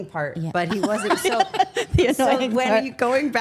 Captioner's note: laughs